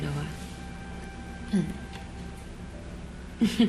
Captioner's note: clears throat; chuckles